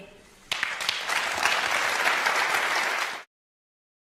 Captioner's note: applause